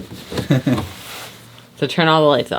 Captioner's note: chuckling